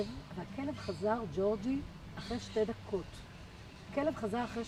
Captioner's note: none